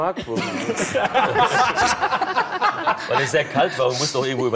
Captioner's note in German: Lachen